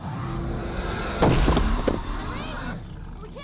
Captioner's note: growls; dramatic music